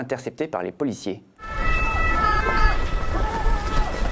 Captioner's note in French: bruit de manifestation, sirènes ambulances